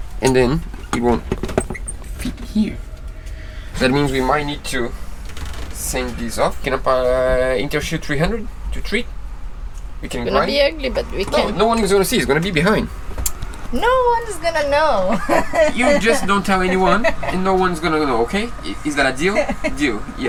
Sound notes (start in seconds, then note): 5.7 grind